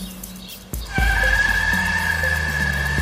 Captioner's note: tires screeching